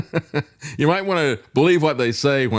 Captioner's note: laughs